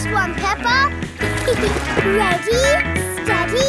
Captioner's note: giggles